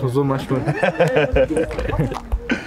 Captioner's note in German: Lachen